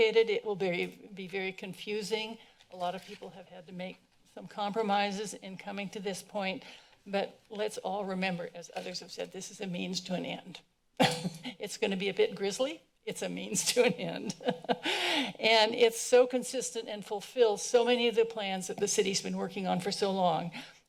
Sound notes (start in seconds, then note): 11.2 aughter; 14.4 laughing